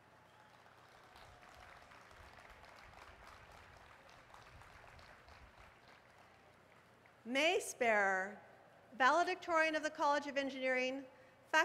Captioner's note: applause